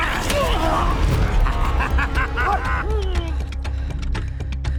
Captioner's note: fighter laughing; dramatic music